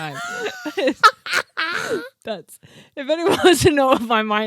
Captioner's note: laughing